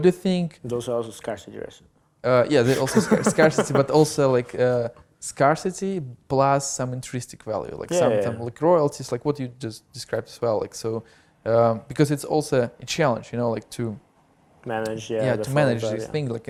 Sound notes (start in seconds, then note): 2.6 laughs